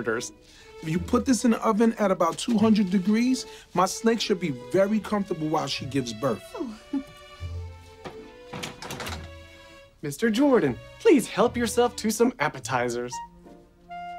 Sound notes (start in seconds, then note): 6.5 chuckles